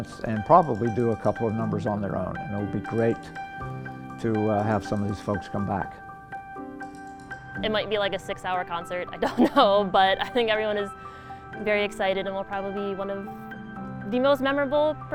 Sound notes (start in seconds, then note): 9.2 laughs